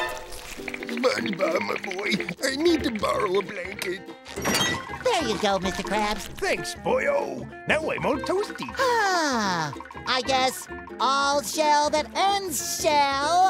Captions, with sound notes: SpongeBob, my boy, I need to borrow a blanket. There you go, Mr. Krabs. Thanks, boyo. Now I'm all toasty. [sighs] I guess all's shell that ends shell.